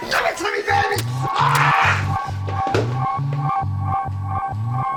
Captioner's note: screaming; suspenseful music